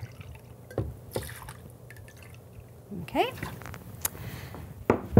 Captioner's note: bourbon splashing